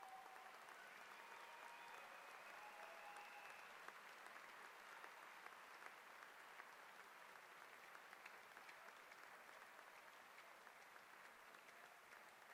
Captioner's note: applause